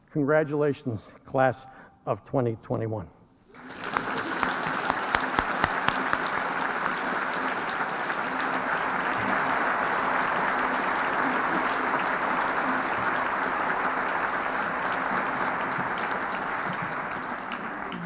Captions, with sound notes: Congratulations, class of 2021. [APPLAUSE]